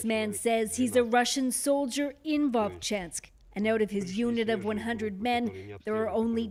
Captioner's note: speaking alternate language